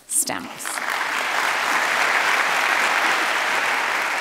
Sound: audience clapping

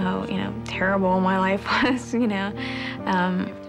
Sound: laughs

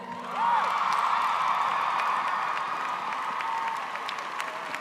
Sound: applause

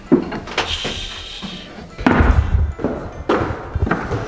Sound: shushes

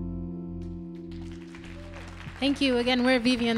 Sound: audience applauding

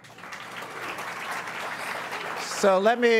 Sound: audience applauds

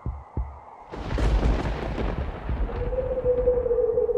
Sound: wind and storm sounds

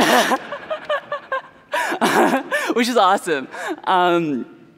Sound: laughter

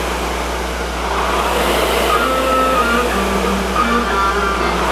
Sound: rower roars lightly

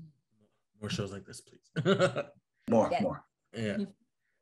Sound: laughs

